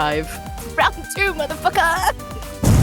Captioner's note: explosion